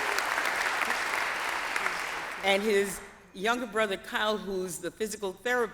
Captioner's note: applause